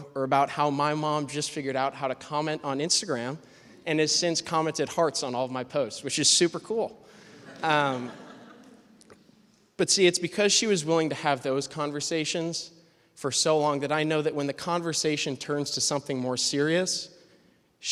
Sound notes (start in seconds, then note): 7.2 laughter